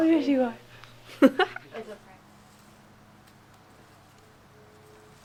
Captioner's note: chuckling